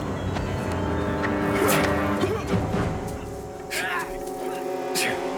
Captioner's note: grunts, Yells